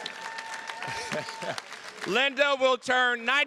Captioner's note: attendees cheers and claps; chuckles